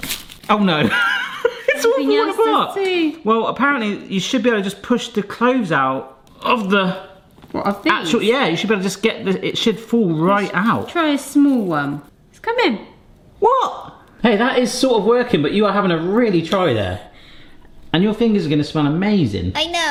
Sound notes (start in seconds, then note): 0.7 laughing